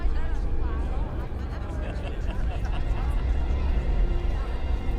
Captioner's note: students laughing